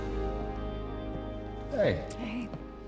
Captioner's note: footsteps